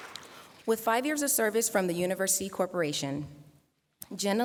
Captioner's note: applause